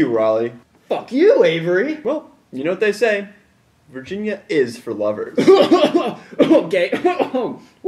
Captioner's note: coughing